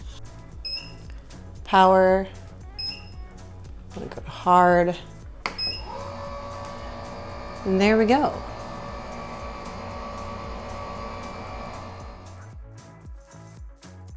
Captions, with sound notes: Power. I'm gonna go hard. And there we go. (whirring)